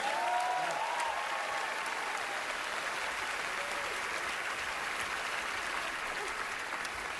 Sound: cheering, applause

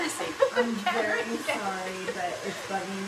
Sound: laughs

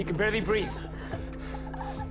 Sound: wheezing

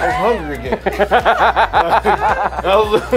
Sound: laughs

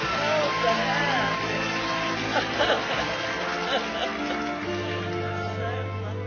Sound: applause and music on video; laughs; laughs

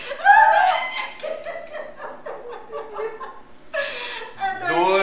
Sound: laughter

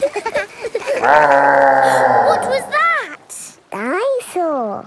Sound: laughing; gasps; growling

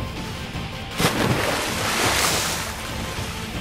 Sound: water splashing

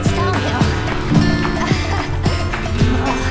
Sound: laughing

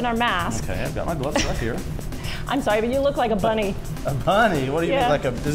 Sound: laughs

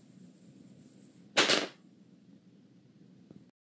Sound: die clanking

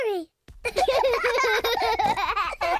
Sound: they giggle

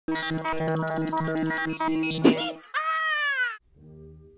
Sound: electronic sounds

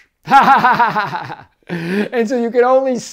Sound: laughs

